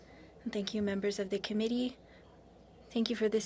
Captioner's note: speaking French